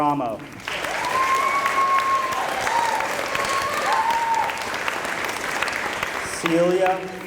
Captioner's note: applause